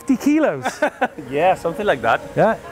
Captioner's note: laughing